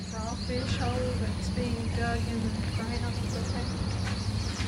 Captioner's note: birds chirping; soft chattering